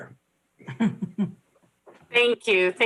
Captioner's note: laughs